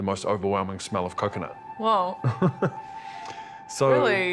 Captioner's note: chuckles